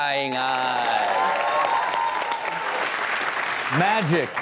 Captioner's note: audience applaud and cheer